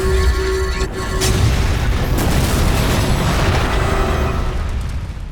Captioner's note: explosion